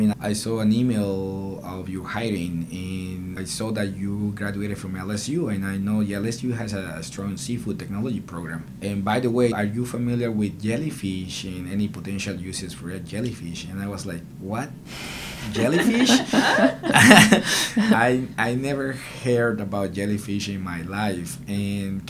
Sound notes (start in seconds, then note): 15.5 laughter